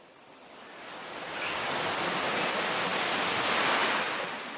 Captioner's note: water whirling